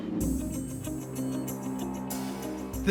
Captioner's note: none